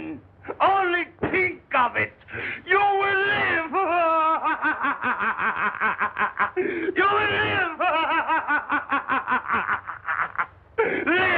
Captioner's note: laughing wildly